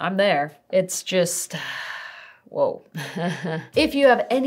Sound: laughs

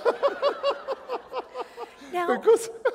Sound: laughter

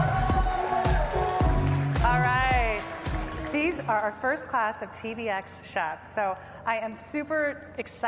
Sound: applause

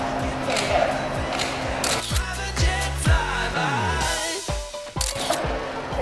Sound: camera shutter clicks

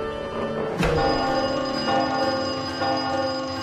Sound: clock rings

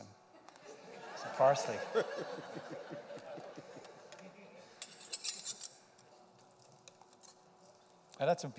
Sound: laughter

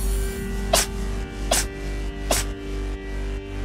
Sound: cat sneezes

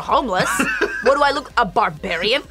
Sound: laughs

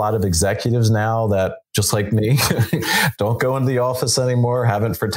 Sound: laughs

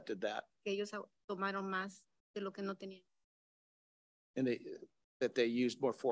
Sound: speaks in Spanish

